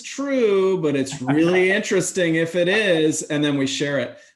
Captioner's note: laughing